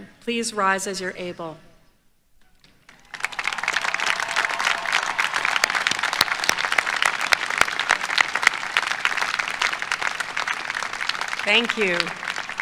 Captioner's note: applause